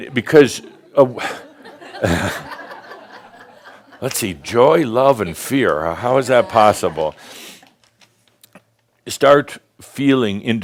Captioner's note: some laughter